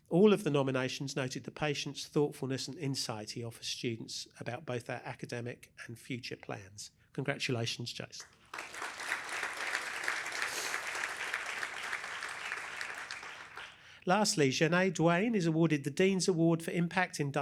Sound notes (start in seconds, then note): 8.2 applause